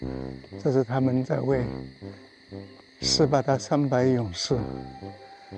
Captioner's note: bird sounds